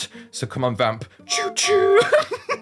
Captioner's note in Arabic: تشو-تشو-تشو